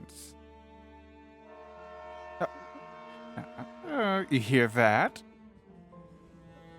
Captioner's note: train Horn in the distace